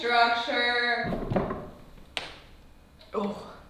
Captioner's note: chair rattles; knee cracks